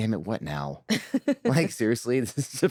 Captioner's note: laughs